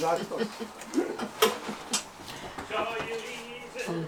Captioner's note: Janice laughs